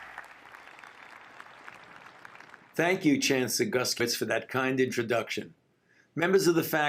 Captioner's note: applause